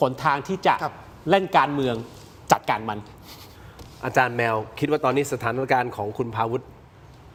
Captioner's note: sound of inhaling